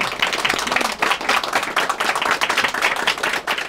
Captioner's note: applause